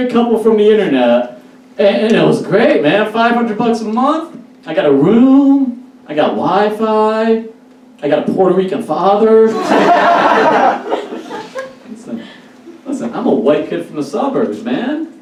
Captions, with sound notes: couple from the internet and it was great, man. Five hundred bucks a month. I got a room. I got Wi-Fi. I got a Puerto Rican father. (Audience Laughs) Listen, I'm a white kid from the suburbs, man.